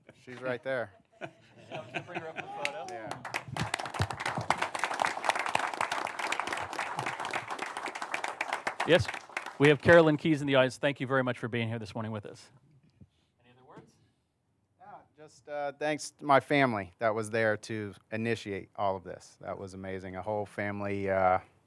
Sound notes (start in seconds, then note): 6.0 applause